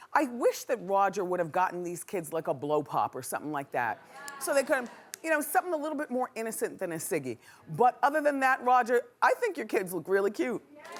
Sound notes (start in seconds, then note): 4.1 audience agreeing; 10.7 cheering